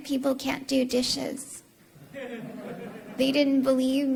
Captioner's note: laughter